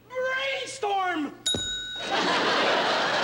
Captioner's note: ding